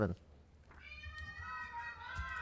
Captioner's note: protestors interjecting